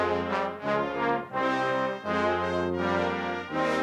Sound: none

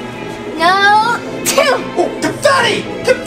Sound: sneezing

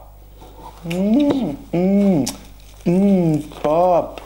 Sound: smooching noises

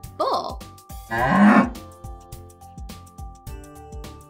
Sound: bull grunting

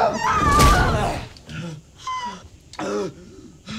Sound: Emily screams; wood thunks dully; breathes heavily

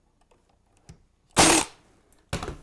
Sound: staple gun

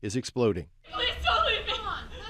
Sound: indistinct shouting

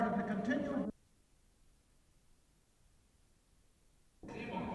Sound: no audio

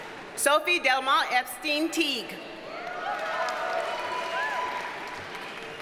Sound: audience cheers and applauds

